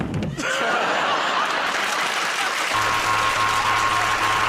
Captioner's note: laughter and applause; thud; buzzer